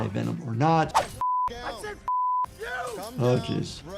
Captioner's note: beep